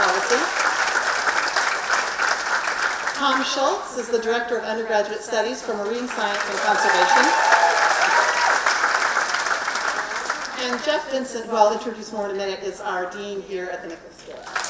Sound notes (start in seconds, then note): 0.0 applause; 7.1 applause; 14.3 applause